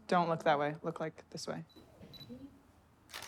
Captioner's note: camera shutter clicks